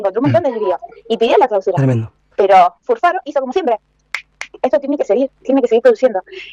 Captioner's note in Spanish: chasquido de dedos